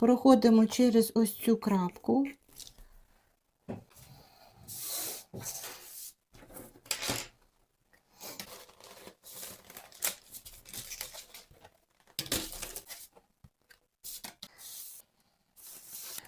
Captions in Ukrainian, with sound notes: Проходимо через ось цю крапку. [сопіння]